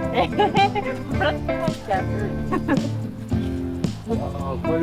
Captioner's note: laughs